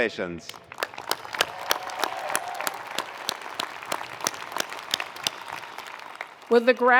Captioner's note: attendees applauding; attendees cheering